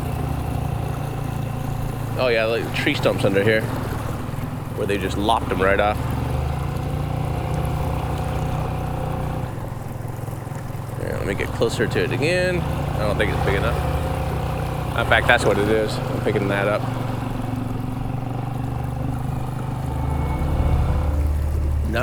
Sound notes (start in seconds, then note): 0.3 engine chugging; 0.3 water sloshing; 7.2 engine chugging; 7.2 water sloshing; 18.2 engine chugging; 18.2 water sloshing